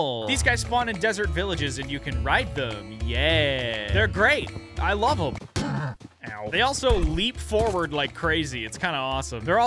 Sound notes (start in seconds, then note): 5.6 grunts